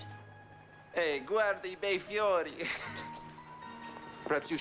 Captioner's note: speaking italian